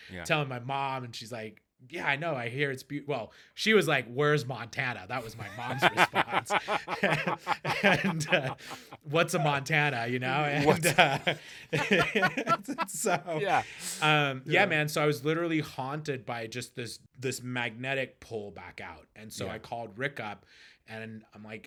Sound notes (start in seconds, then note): 5.2 laughing